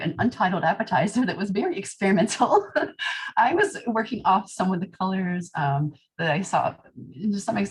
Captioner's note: laughter